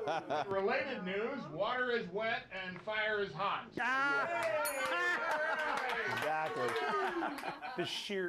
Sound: bell rings; applause

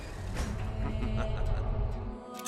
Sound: laughs

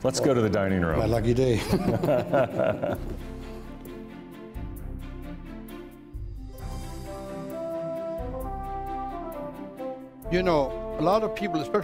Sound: laughter

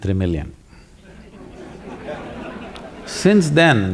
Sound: laughter

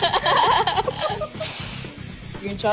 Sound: laughs

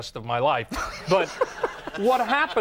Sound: audience laughs

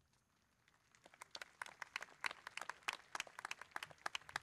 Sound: crowd clapping

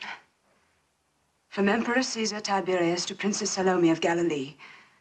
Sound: huffs

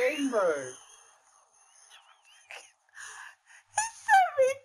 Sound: laughs in wheeze

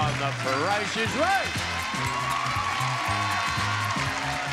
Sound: audience cheering

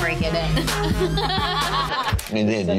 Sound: laughing

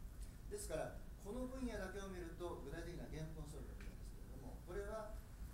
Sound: speaking in foreign language

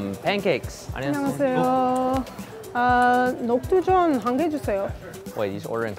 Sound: speaking Korean

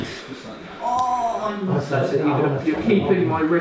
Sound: groans

